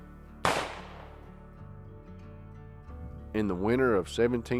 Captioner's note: gun fires